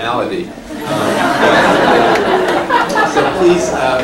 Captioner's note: laughter